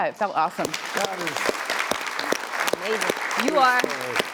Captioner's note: applause